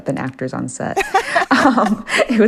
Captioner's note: laughter